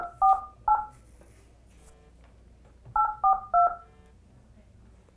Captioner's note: phone dialing; dial tone